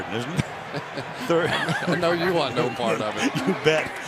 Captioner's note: laughs